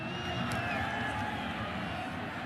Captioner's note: whistle